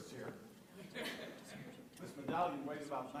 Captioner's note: laughter